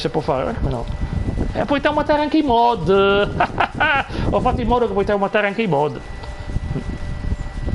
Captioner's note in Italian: risate